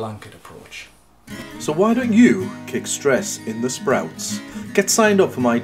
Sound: voiceover

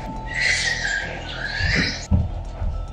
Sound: squeaking; foreboding music

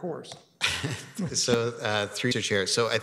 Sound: chuckling

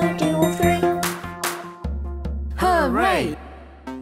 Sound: clapping

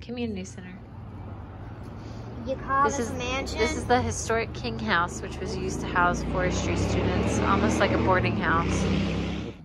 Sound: motorcycle noise in background

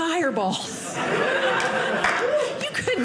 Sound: audience laughing

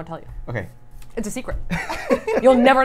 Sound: laughs

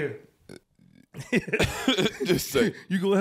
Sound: laughing

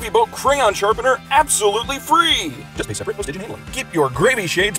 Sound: quieter, motormouth-style

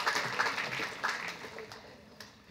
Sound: applauds

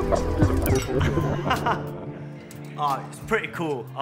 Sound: laughs

